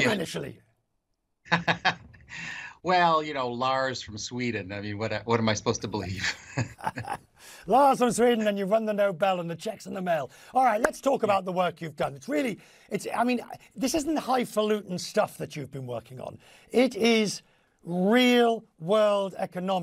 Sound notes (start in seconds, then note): 6.2 laughter